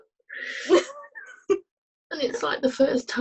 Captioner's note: laughter